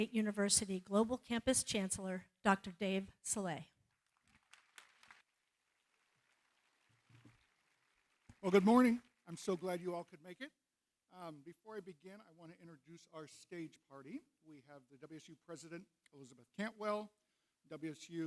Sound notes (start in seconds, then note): 4.0 applause